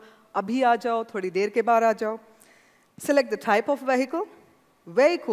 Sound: speaking hindi

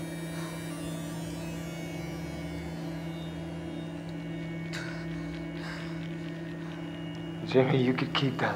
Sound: gasps

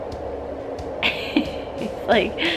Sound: laughs

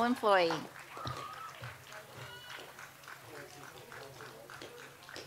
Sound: audience applauds

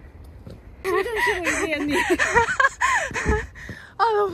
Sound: out of breath

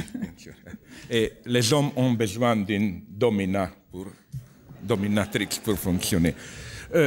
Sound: rires

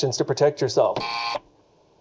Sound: buzzer buzzes

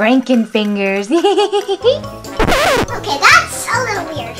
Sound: giggles

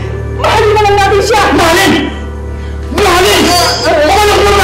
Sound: whimpers

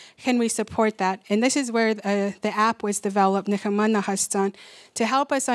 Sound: non-english speech

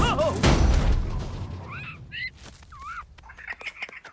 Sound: soft cries

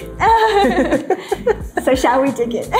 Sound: both laugh

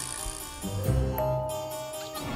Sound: dinging

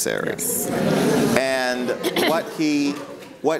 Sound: audience responds

